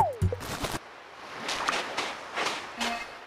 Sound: footsteps

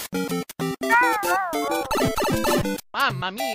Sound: meow meow meow

